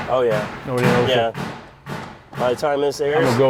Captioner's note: tools clanking